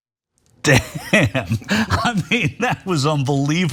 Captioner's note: laugh